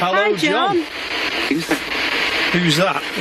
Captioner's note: Ovilus speaking